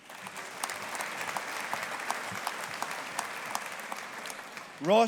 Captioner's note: audience applauding